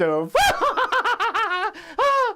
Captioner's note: laughs